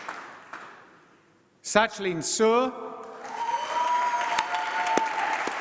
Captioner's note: applause